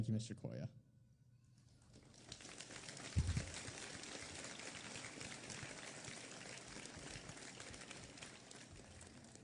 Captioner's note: applause